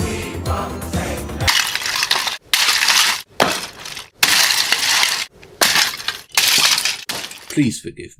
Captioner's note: sfx: vinyl record being smashed into very small pieces